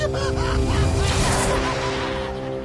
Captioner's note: laughing